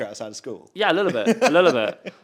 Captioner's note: host laughs